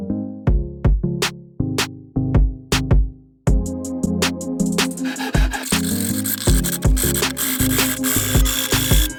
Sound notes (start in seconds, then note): 5.0 drill whirring